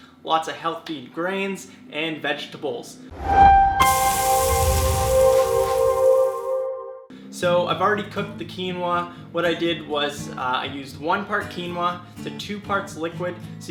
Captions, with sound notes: Lots of healthy grains and vegetables. (upbeat chime) (sizzling pan) So, I've already cooked the quinoa. What I did was I used one part quinoa to two parts liquid.